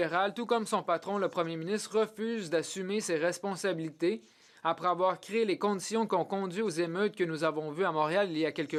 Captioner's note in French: voix de l'interprète